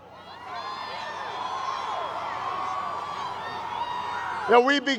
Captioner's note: crowd cheers